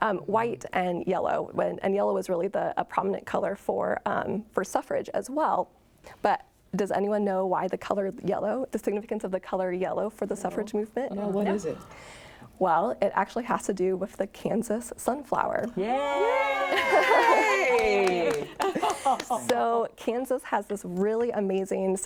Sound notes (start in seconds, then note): 15.8 cheering; 16.7 chuckling; 17.3 clapping